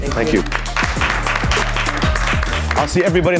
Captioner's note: all applauding